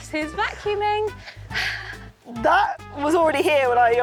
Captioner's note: sighs